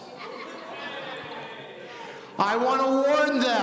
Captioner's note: audience laughing